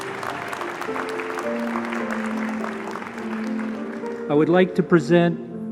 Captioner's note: applause